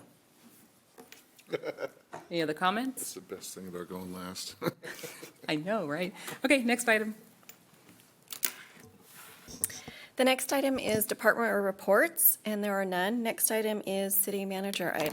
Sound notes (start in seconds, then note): 4.6 laughter